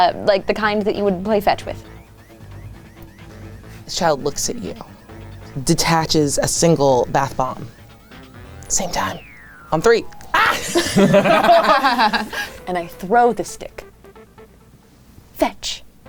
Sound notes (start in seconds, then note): 10.3 everyone laughing